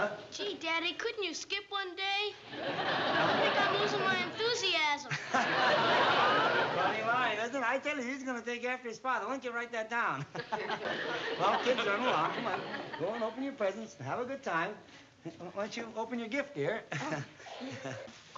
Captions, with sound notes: Gee, daddy. Couldn't you skip one day? I think I'm losing my enthusiasm. [LAUGHS] Funny line. I tell you, he's gonna take after his father. Why don't you write that down? Well, kids, run along. Go and open your presents and have a good time. Why don't you open your gift, dear?